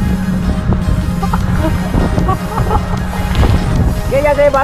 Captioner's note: laughs